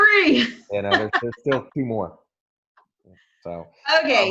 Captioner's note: murmurs